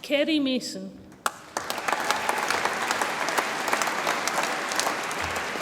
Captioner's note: audience applauds